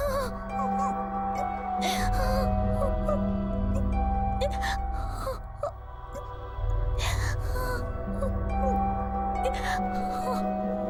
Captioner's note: sobbing